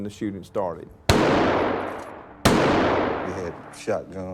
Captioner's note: gunshots